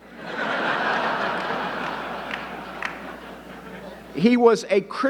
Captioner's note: audience laughing